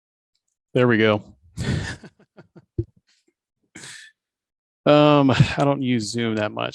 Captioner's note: laughs